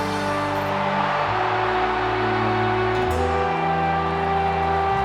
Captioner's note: echoes of cheering crowd